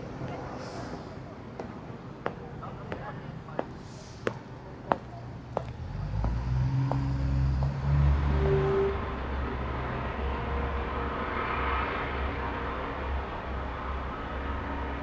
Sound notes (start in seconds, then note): 0.3 footsteps tapping; 4.5 traffic humming